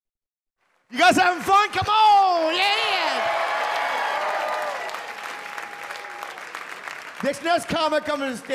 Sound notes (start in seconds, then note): 2.6 audience cheer and applaud